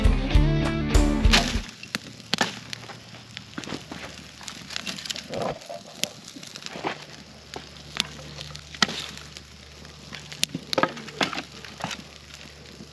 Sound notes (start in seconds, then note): 1.6 fire crackling